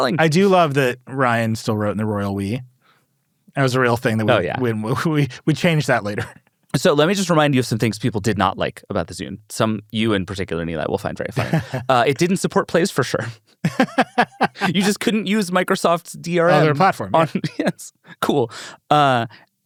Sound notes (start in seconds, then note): 13.6 laughs